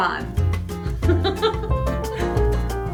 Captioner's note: laughter and music